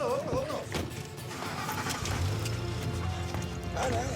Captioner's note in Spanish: sonido del motor